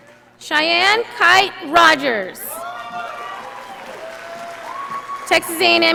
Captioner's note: audience applauding